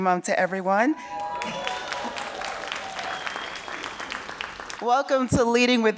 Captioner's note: audience cheering and clapping